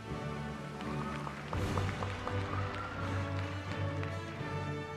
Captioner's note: applause